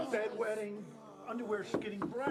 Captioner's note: knock at door